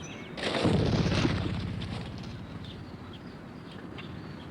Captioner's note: forest booming